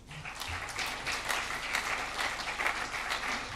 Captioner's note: crowd applause